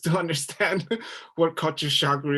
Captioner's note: chuckles